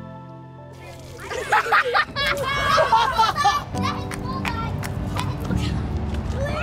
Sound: children and laughing

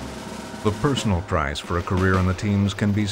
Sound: voiceover

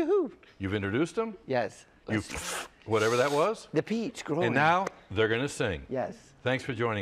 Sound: sucking

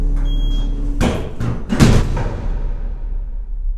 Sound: gears stop

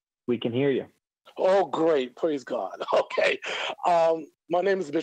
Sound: laughs

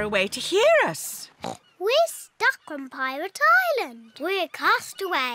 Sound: oinks

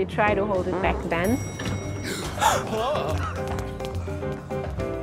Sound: gasp, groan

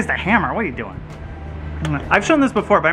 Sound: smooching

